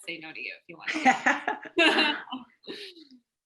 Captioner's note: laughs